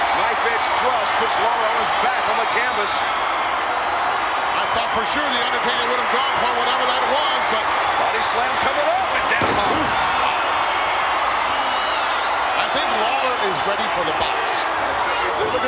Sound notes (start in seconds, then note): 0.0 audience cheers; 10.5 audience cheers